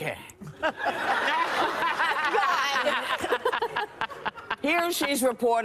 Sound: audience laughing

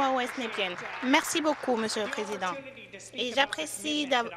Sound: applause

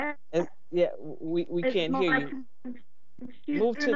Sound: voice distorted

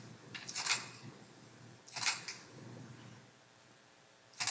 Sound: camera shuttering

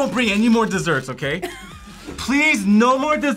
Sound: React laughs

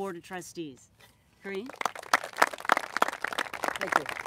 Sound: applauses

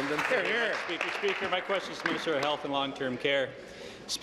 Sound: applause

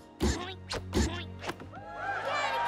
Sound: cheering

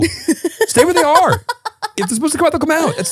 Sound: laughing

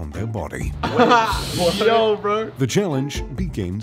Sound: laughter

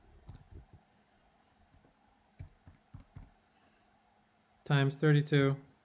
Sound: calculator buttons clicking

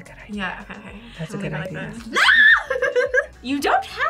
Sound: whispers; screams

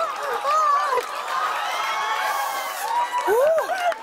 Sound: cheers and applause

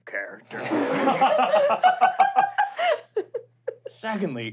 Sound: laughing

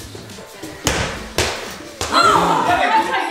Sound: ball bouncing

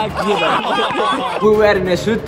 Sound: laughter

